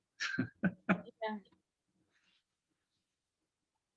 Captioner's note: laughs